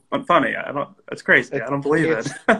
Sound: laughs

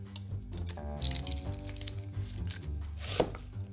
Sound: onion paper rustling

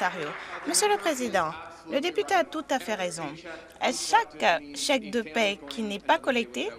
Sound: applause

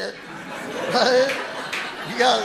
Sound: audience laughing

